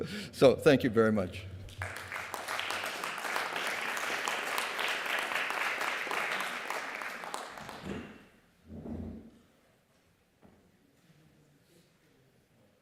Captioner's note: applause